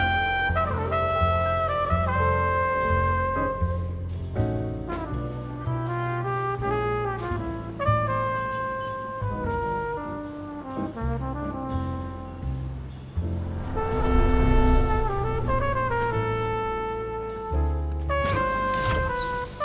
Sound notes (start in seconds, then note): 13.1 spaceship whooshes